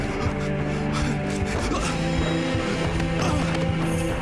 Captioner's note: man grunts